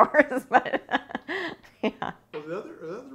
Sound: laughing

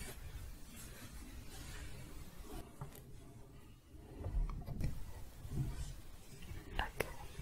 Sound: shuffling

